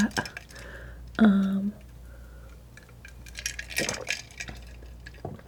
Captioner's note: scratching